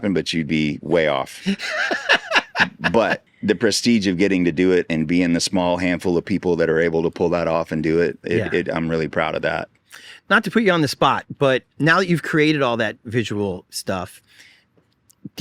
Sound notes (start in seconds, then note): 1.4 laughing